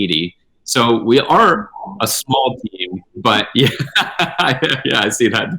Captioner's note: laughing